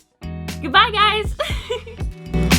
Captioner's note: giggles